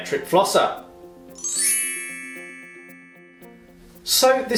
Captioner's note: magical chiming